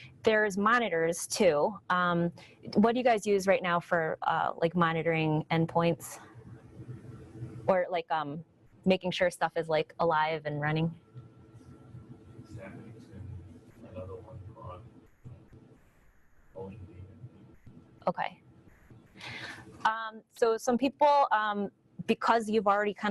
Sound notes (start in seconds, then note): 13.1 audience member speaks from a distance